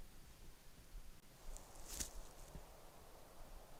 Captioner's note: kākāpō footstep